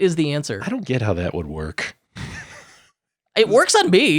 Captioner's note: laughs